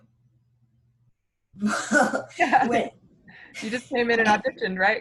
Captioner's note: laughs